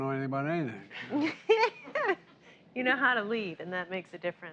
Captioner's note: laughs